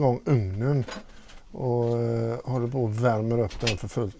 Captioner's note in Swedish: harklar sig